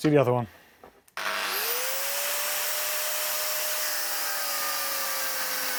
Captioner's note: angle grinder whirring